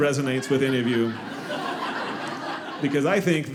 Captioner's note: audience laughing